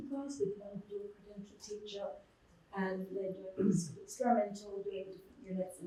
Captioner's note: muffled voice